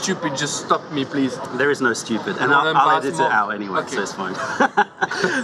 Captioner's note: laughter